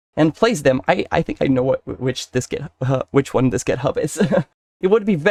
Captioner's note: hahah